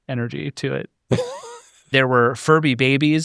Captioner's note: laughs